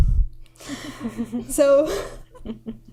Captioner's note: laughing